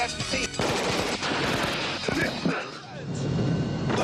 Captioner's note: gun fires